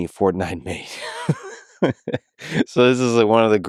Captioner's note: Lex laughing